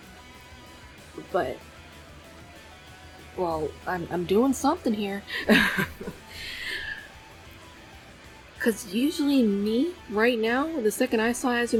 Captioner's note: laughs